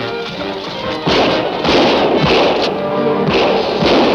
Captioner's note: gun shots